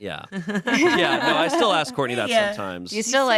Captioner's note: everyone laughs